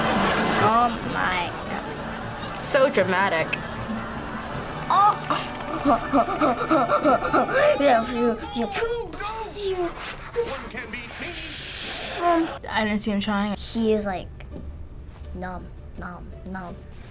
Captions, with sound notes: - Oh my god. - So dramatic. - Ah. (laughs) (makes action noises) - I didn't see him trying. - He was like, "Nom, nom, nom."